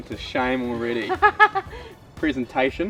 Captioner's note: laughs